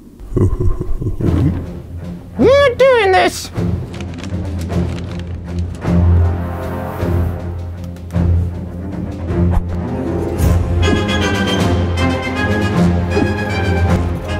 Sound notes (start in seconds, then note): 0.4 bin hand chuckles, but is cut off; 3.4 paper crinkles; 3.7 finger taps twice